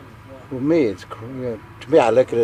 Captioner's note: speaking in foreign language